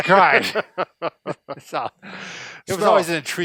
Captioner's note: laughing